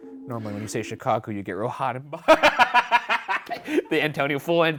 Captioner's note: laughing